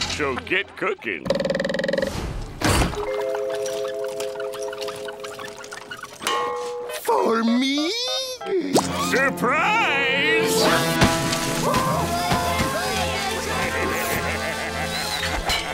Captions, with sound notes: So get cooking. For me? Surprise! [screaming] [laughing]